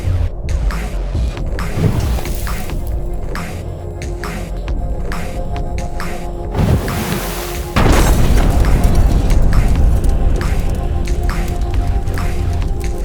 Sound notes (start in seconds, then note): 8.2 car exploding; 10.2 dramatic music